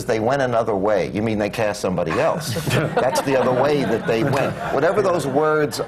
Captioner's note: laughter